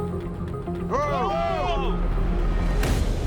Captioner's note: all exclaim